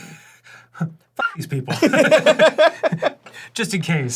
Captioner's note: both laugh